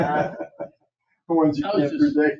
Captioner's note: members laugh